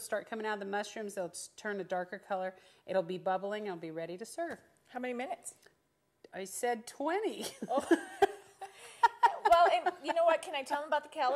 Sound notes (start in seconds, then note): 8.6 laughing